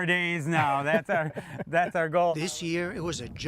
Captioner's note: laughter